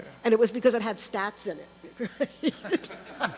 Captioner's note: voiceover; laughs